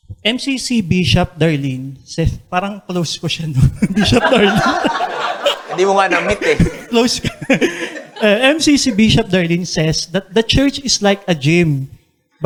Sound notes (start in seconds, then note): 3.8 laughter; 7.8 chuckles